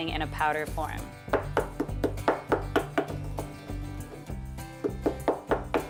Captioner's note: pounding mortar and pestle